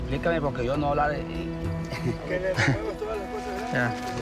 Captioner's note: Spanish language